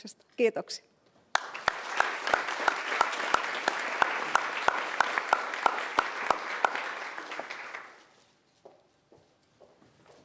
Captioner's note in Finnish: aplodit